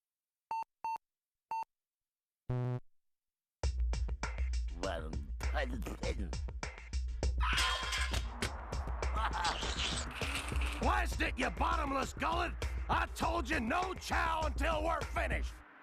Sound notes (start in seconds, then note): 5.3 muttering; 9.1 chuckling